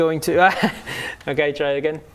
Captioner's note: worrying laugh